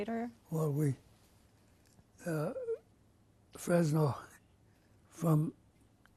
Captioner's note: pauses for 3 seconds